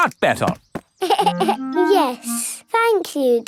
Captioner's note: giggles